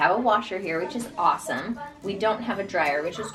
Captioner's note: children murmuring